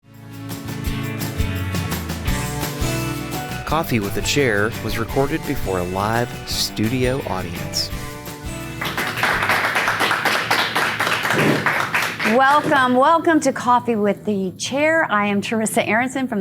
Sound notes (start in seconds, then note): 0.2 upbeat music; 8.7 applause